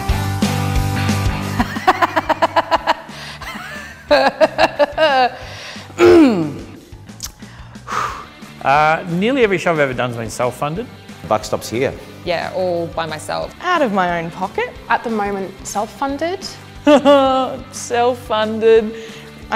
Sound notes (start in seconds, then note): 1.7 laughs; 5.9 clears throat; 7.3 exhales sharply; 16.7 laughs